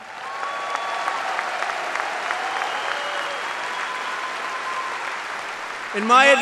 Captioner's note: applause